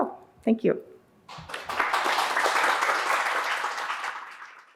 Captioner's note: audience applauding